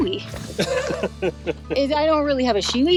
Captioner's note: chuckles